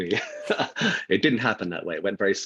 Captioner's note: laughing